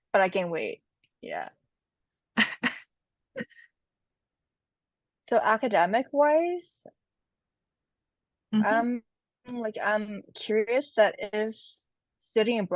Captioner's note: laughs